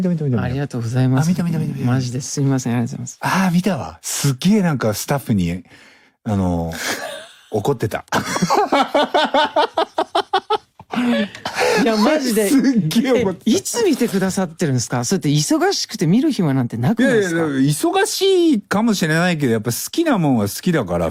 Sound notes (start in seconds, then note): 11.2 爆笑; 11.8 break into a laugh